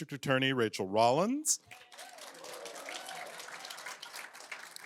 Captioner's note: applause